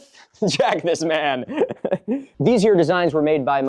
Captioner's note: giggling